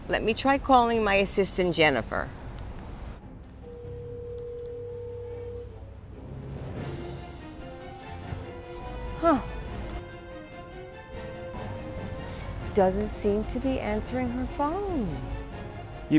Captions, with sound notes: Let me try calling my assistant Jennifer. (Phone ringing) (suspenseful music) - Huh. She doesn't seem to be answering her phone.